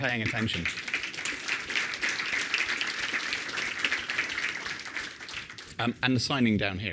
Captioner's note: applause